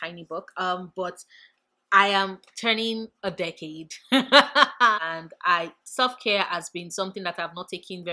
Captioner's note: laugh